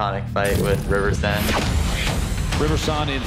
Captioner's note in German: Soundeffekte